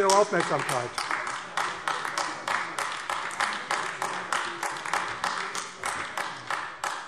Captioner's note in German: Anhaltender Beifall AfD